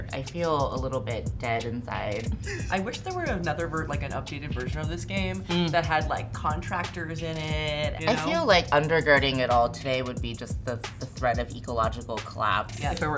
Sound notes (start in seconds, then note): 2.3 gasps